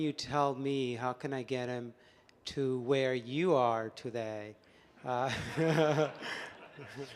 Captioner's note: laughs